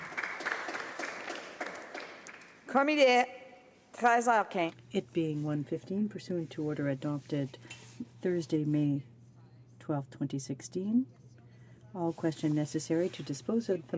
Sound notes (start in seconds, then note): 3.1 some Applause